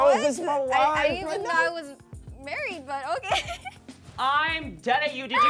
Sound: laughs

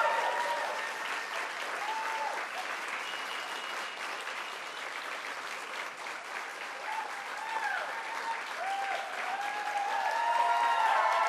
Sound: cheers and Applause

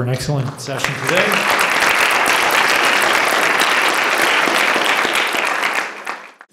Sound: applause

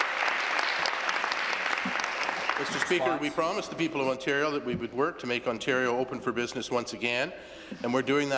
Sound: applause

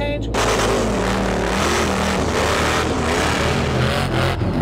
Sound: engine roaring

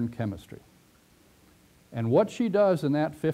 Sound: pause

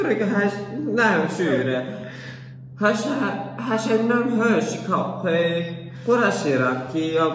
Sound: some gypsy incomprehensible language

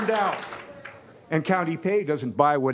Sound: cheers and applause

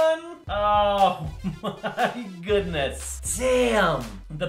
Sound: chuckling

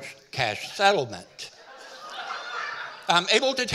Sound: audience laughing

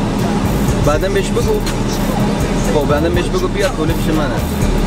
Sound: man speaking Arabic

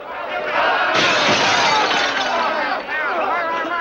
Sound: glass shattering

